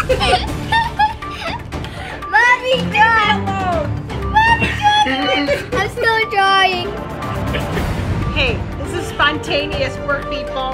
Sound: laughter

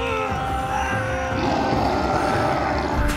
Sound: grunting; growling

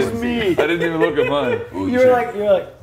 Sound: laugh

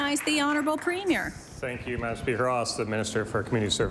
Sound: applause

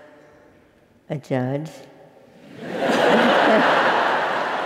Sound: laugh

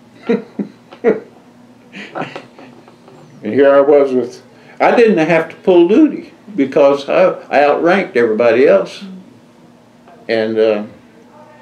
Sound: laughs

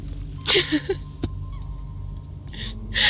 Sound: Turtledove giggles

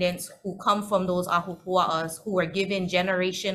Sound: speaking foreign language

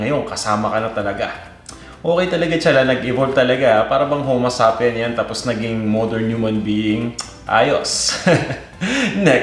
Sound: chuckles

